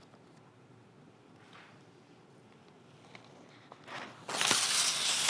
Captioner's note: page whooshing; page ripping